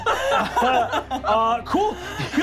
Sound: laughing

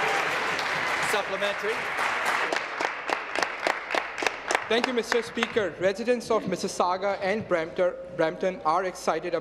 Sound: applause

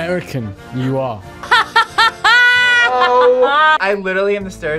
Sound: laughs

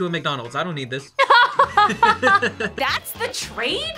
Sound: both laugh

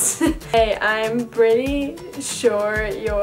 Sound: laughs

